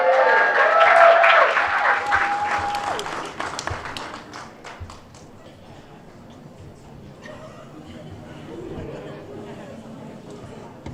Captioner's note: applause